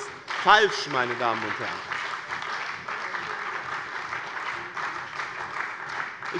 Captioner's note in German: Beifall bei dem BÜNDNIS 90/DIE GRÜNEN und der CDU